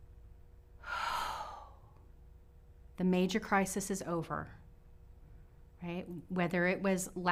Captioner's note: exhales